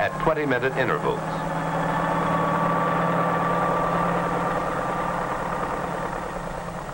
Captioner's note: helicopter blades whirring